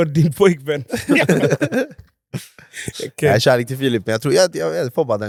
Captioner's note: laughs